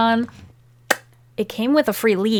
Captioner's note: mouth pop